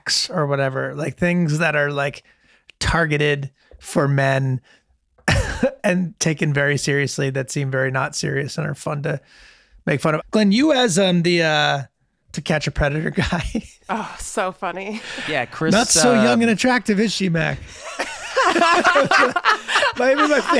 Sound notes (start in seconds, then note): 13.2 Charlie laughing; 17.5 all laughing